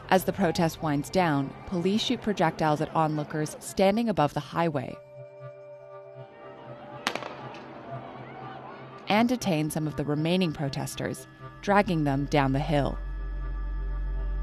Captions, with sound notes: As the protest winds down, police shoot projectiles at onlookers standing above the highway — [shooting] — and detain some of the remaining protesters, dragging them down the hill.